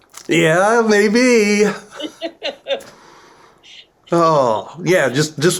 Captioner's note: laughter